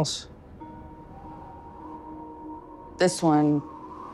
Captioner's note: wind blowing